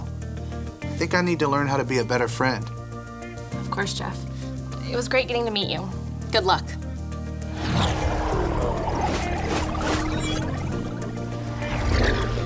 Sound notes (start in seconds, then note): 7.5 electronic swoosh